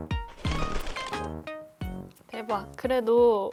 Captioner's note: flap flap